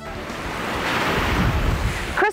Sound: waves crushing

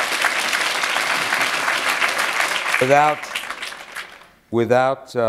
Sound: applause

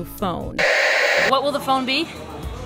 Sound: static

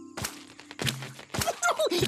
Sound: sloshing

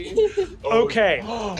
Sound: Murph gasps

